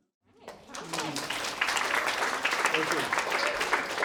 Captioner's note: crowd claps